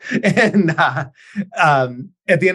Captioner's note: laughs